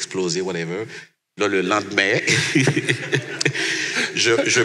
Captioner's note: laughs